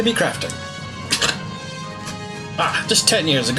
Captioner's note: chortles